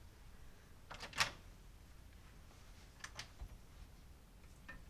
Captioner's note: door clicks